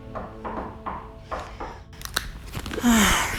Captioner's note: door knocking